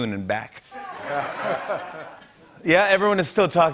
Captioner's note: laughter